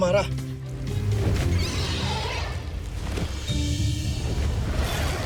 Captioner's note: mystical music playing; screeching roar in distance